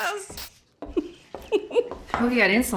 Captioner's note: giggling